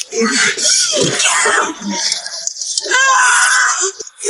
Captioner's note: Jodie screaming